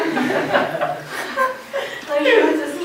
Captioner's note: laughter